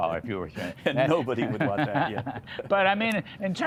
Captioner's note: laughter